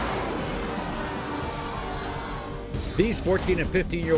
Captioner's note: audience shouts; upbeat music